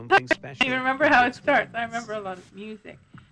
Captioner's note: laughs